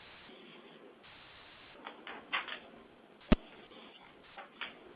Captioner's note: silence